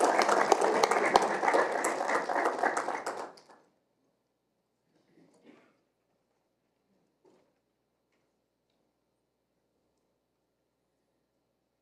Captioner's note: applause